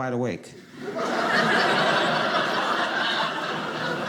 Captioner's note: audience laughing